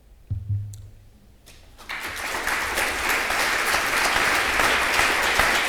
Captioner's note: applause